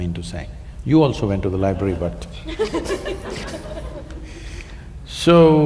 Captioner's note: laughter